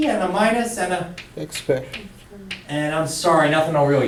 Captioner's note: voiceover